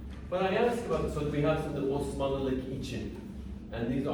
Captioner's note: non-english speech